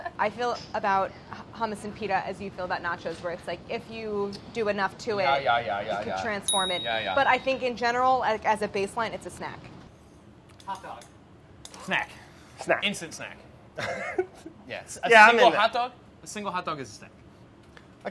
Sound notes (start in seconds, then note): 6.5 buzzer pinging; 13.8 laughs